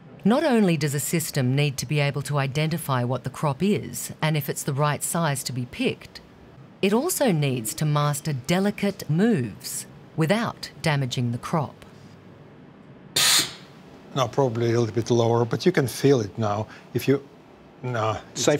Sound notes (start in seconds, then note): 13.2 robot zaps